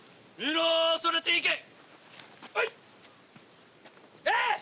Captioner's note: shouting in Japanese